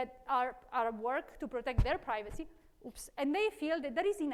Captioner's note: microphone rustling